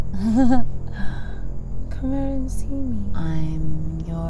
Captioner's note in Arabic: ضحكة مكتومة